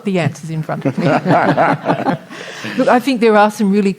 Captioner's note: audience Laughter